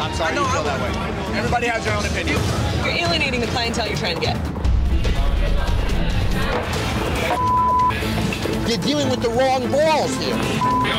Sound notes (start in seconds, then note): 7.3 beep